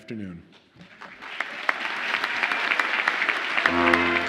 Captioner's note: audience applauds; upbeat music